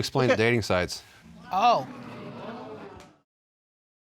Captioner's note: audience gasp